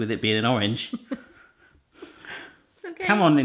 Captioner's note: laughing